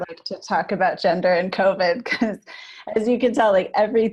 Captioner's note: laughs